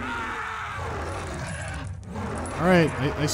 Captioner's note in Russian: яростное рычание